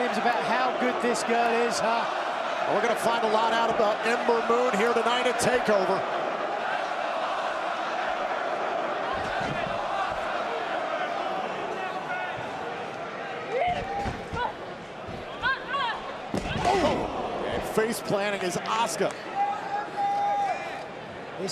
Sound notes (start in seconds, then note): 8.0 crowd chatter